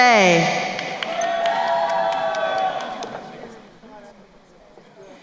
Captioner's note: crowd cheering